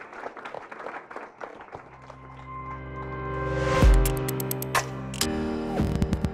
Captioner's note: applause